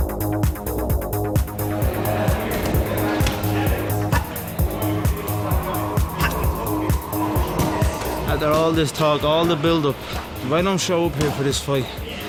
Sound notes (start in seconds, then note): 3.7 grunting